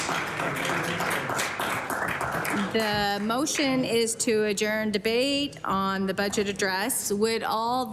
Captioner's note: applause